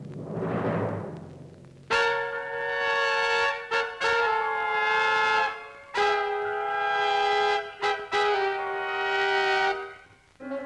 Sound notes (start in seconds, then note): none